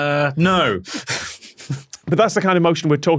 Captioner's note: both snicker